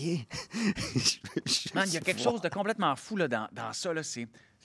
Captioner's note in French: rire